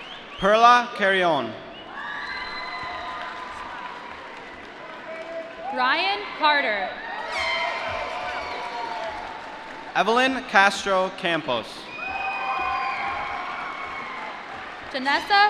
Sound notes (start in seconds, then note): 2.0 applause; 11.8 cheering